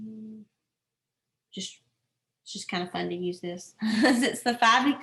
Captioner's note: laughter